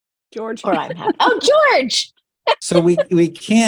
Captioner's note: laughing